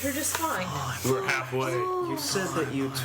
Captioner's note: whispering